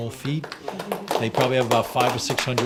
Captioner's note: group applauds